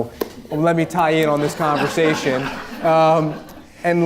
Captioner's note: audience laughing